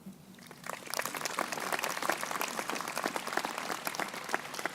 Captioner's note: crowd applauding